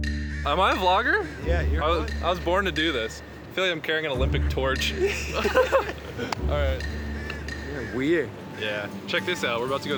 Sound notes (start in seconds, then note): 4.9 both laughing